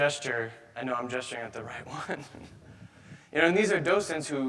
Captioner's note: chuckles